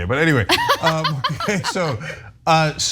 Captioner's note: laugh